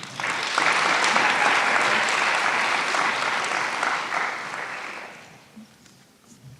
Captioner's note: applause